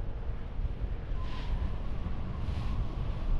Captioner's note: wind whooshing